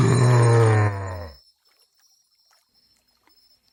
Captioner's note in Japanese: うめき声